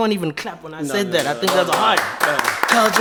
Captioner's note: clapping